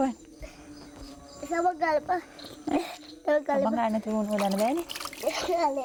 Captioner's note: speaking in a foreign language